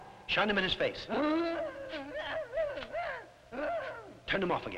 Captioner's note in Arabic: بوبوكا تتأوه